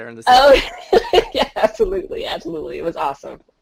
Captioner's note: laughing